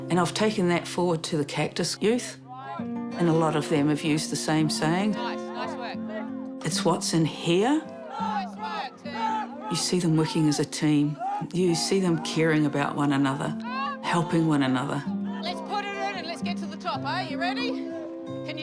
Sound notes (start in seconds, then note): 7.6 youth chant